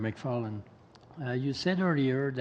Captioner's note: speaking French